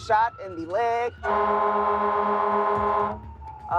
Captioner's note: horn